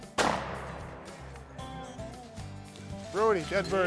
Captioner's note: gun shot